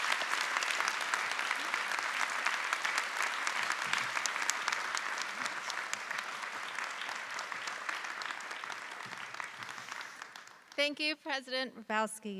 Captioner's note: applause